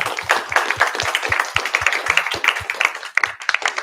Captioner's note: applause